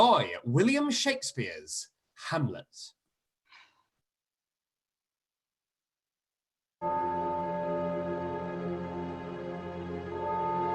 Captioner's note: bell towers and music